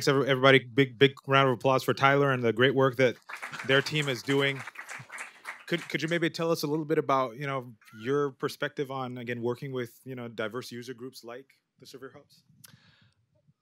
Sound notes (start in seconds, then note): 4.6 applause